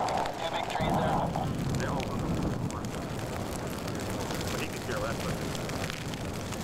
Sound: fire crackling

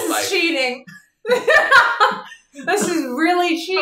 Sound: laughing

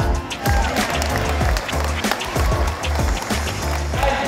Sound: applause

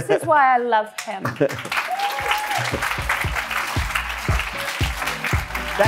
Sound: audience applauds; upbeat bright music

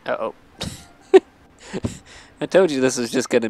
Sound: laughs

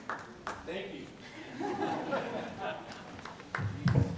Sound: laughing

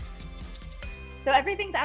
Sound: timer dinging

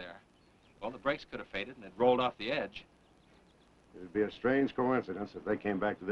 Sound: none

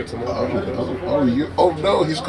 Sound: mumbles

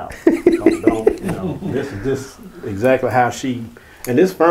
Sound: laughing

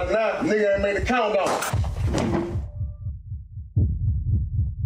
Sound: gun firing

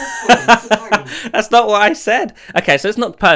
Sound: laughs

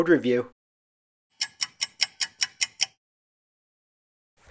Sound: sound effect of a ticking clock

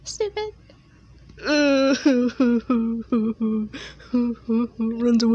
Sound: crying sounds

